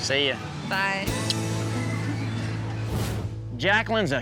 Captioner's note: kisses